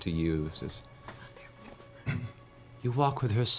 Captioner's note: whispers